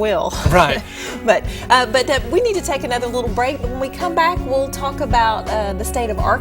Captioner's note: chuckle